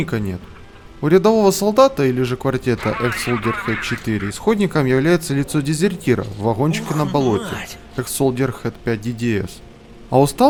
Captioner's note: talks on the radio: “Obana, three more got out...”